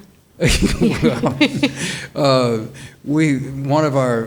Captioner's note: panelists laughing